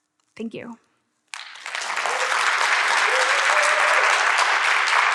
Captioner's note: audience clapping